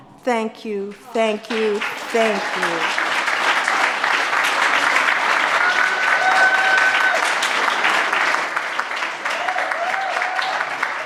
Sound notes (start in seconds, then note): 2.5 audience claps; 5.7 audience hollers